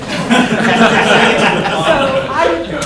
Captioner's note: laughter